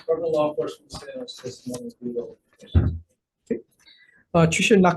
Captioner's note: speaking off-mic